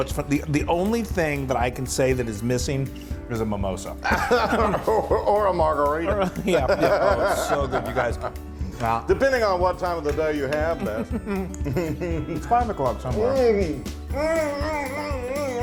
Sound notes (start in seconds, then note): 6.5 laugh